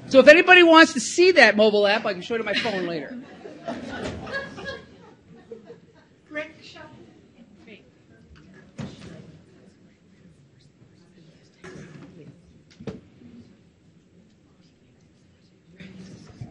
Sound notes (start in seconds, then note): 2.4 audience chuckles; 10.0 audience members whispering